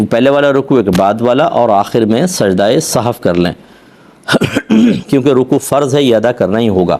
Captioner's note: coughs; clears throat